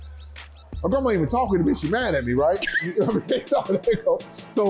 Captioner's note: laughter